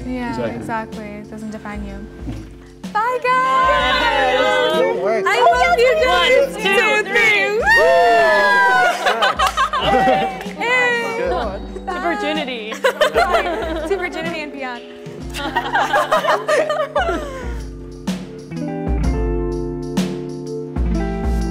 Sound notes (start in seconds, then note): 8.1 laughing; 12.7 laughing; 15.3 group laughing; 18.3 soft upbeat music